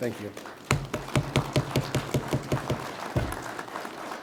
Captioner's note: people applaud